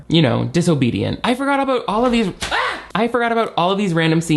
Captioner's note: screams